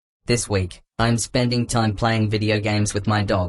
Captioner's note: none